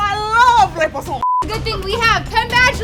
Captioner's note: speaking french